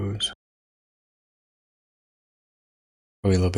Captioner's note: blank Audio